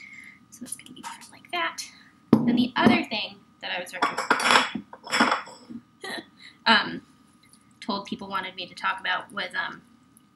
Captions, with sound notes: so i'm just going to put that in like that. and then the other thing that i was - *clattering of bowl* told people wanted me to talk about was